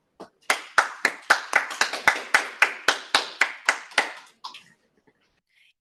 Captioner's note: appluse